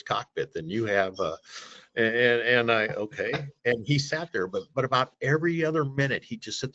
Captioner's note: inhales